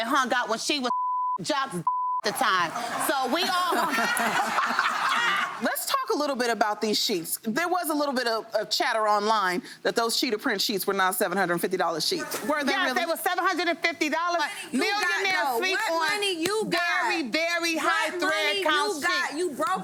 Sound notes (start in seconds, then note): 1.8 beep; 4.4 laughing